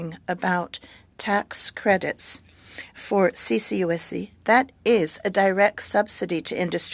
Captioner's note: speaking French